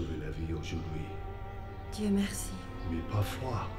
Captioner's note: Ellie speaks in French; speaks in French